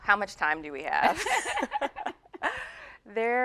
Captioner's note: laughing